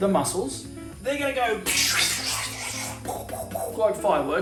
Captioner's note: making popping sound